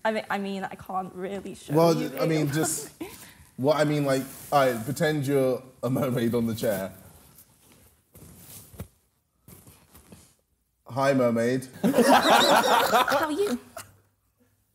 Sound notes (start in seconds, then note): 11.9 laughing